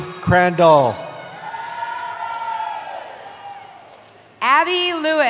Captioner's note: cheering